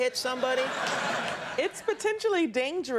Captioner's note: audience laughing